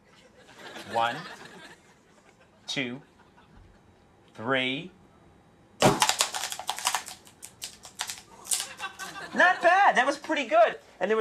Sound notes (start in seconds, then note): 5.8 an explosion